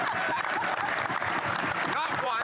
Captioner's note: applause